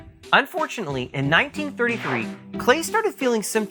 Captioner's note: swoosh